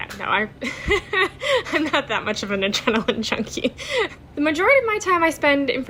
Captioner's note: laughing